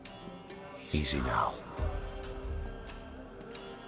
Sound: none

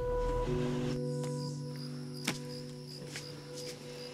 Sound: crickets chirping

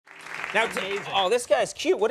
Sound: audience applauding

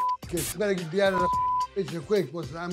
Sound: beep

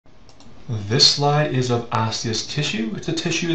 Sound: voiceover

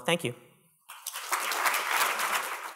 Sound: applause

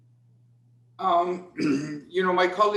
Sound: clears throat

